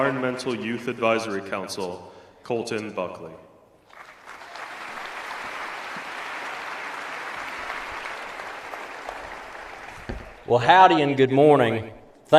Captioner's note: applause